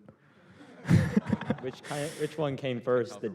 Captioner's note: laughter